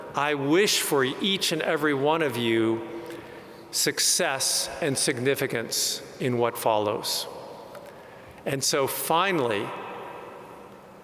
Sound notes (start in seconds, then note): none